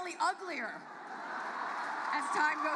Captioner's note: audience hoots